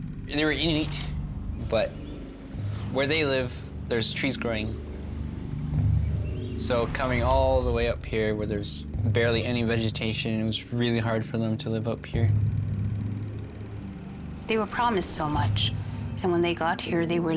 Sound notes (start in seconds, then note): 4.8 dark music; 11.5 projector whirring